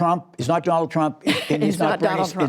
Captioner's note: laughter